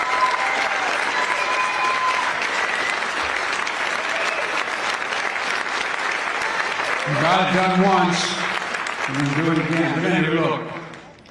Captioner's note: applause